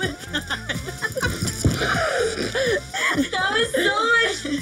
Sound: laughing

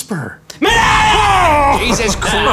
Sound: screaming

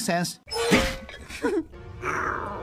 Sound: chuckle

